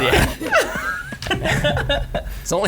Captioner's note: laughing